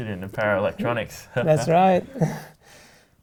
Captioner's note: laughs